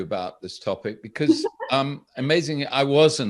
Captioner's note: chuckles